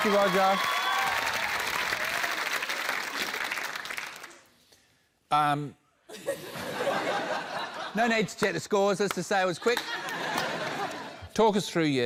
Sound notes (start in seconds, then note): 0.0 cheering, applause; 6.1 laughter; 9.6 laughter